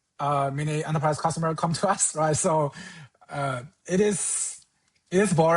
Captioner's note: chuckles